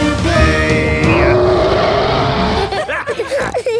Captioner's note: roaring; laughter; snorting